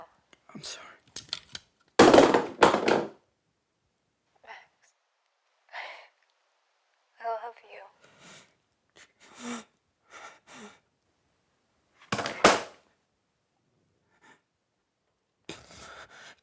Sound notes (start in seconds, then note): 2.0 phone clattering; 9.1 Max wheezing